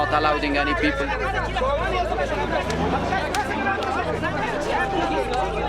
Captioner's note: shouting in foreign language